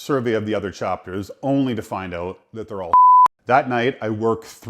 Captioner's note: beep